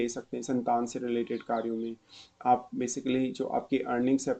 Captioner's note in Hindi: नाक से की जाने वाली आवाज़